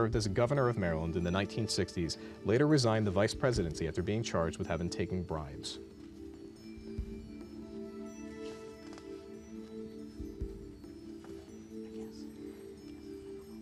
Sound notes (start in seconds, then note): 10.0 whispering